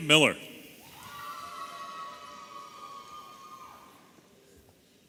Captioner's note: audience cheering